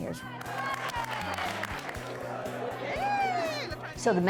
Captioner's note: cheers & Applause